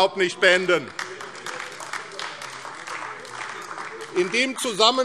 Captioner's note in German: Beifall AfD - Zurufe CDU